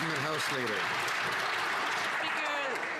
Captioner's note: some Applause